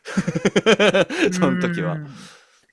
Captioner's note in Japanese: 笑い